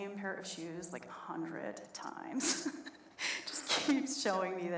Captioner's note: laughs